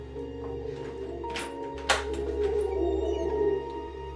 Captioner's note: door opens